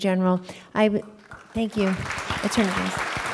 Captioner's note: applause